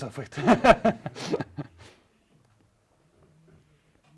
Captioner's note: laughs